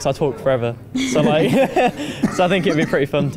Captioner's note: laughs